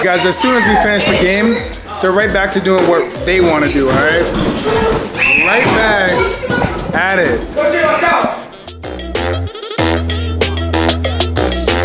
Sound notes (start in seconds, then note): 4.6 kids screaming; 9.0 upbeat music